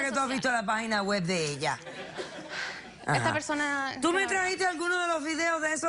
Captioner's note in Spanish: Risas